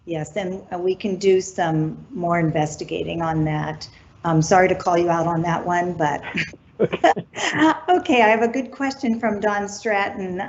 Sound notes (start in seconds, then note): 6.7 laughs